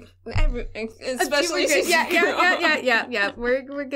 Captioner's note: laughing